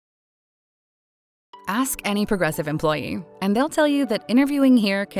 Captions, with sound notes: - [Voiceover] Ask any Progressive employee and they'll tell you that interviewing here